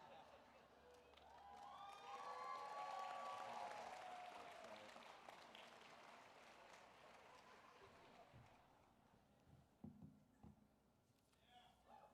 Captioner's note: applause